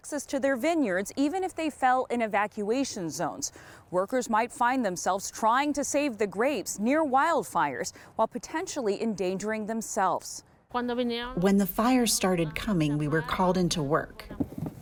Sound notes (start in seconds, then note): 11.0 through translator